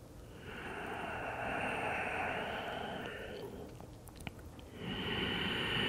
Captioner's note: breathing